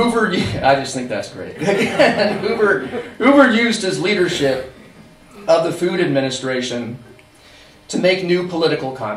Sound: laughter; laighter

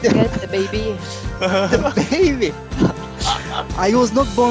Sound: laughter

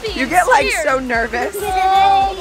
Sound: laughing

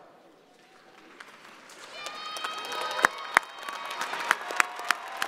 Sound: crowd applauding

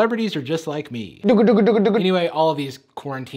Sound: imitating helicopter noises

